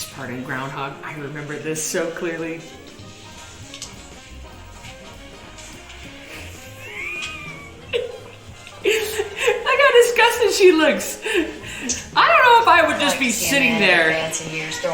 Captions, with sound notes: This part in "Groundhog," I remember this so clearly. (playful music) (laughs) Look how disgusted she looks. I don't know if I would just be sitting there.